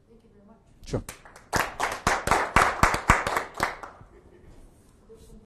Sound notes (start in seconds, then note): 1.0 audience clapping